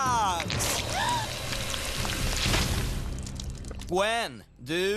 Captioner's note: gasping